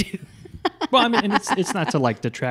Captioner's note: laughs